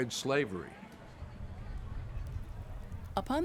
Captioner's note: large crowd cheering